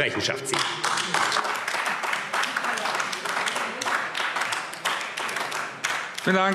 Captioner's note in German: Beifall AfD